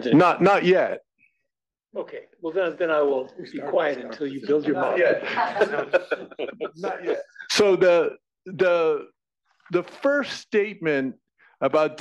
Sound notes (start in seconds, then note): 5.1 laugh